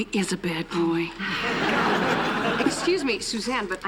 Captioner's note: laughter